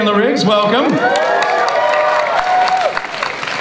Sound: audience cheers and applauds

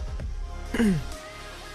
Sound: clears throat x5

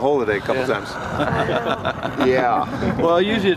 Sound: group laughs

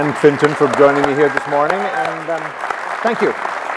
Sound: applause

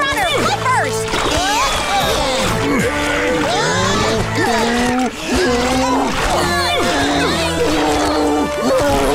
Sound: grunting

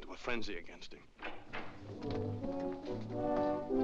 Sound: door bursts open; dramatic music

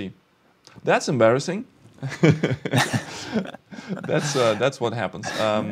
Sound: laughs

